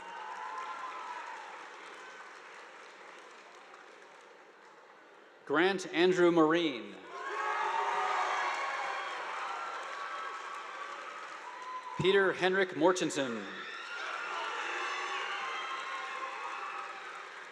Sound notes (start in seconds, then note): 0.0 audience applauding; 7.1 students cheering; 7.2 audience applauding; 13.6 audience applauding